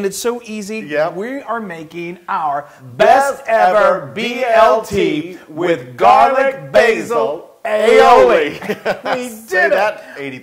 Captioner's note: laugh